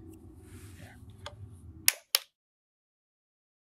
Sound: flashlight clicks off

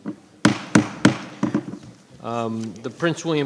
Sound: gravel bangs

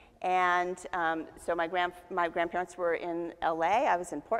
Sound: none

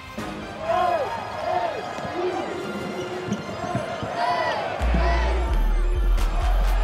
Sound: crowd; hype-inciting music

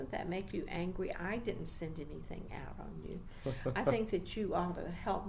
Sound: laughs slightly

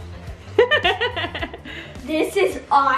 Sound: laughs

